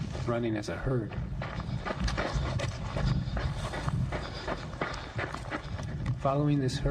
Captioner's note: running sound